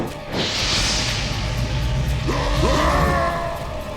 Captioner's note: fire